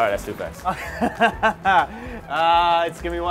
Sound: laughing

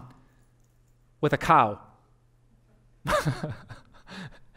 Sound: pastor: Laughter

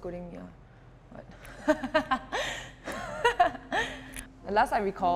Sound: self-conscious laugh

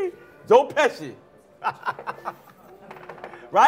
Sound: laughter

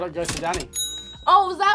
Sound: register dings

